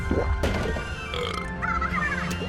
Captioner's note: burp